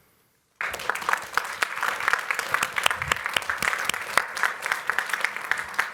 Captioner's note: applause